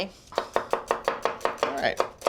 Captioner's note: knife chopping